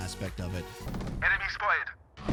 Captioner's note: gunshots